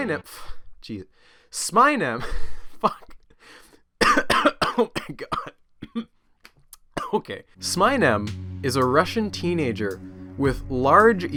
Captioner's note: cough cough cough